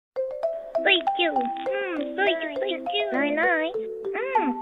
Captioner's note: nibbling Happily